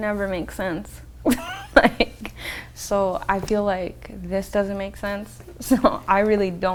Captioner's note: laughs